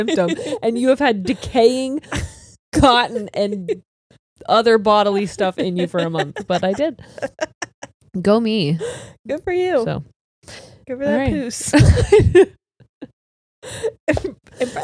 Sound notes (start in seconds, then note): 7.5 laughs; 12.1 all laughing